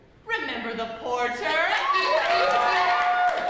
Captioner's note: honking, laughter, hooting, and applause